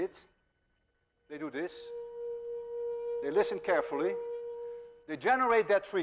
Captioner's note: plays high tone